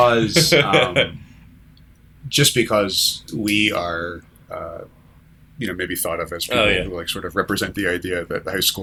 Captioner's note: laughter